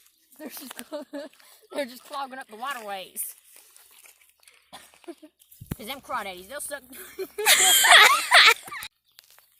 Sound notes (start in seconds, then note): 0.6 attempting not to laugh; 5.0 laughs; 6.9 everyone loses it